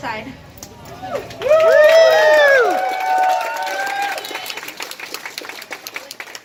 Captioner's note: crowd cheers